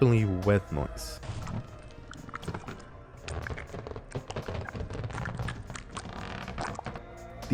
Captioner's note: sounds of a balloon going through a tight wet crevice